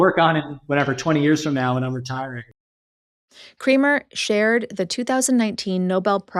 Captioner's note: lightly laughs